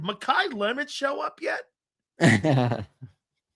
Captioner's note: laughs